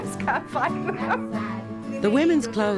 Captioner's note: laugn